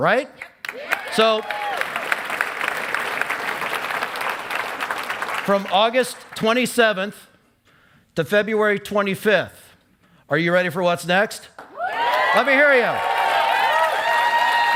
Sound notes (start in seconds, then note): 0.6 cheering and applause; 11.7 cheering